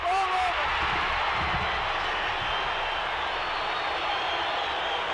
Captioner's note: audience cheering